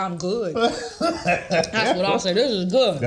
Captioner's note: Dorien laughs